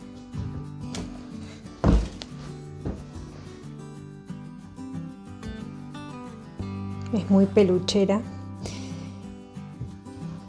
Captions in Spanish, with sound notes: Es muy peluchera, [resoplido]